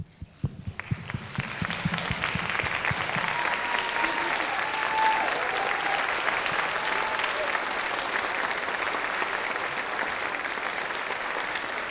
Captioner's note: applause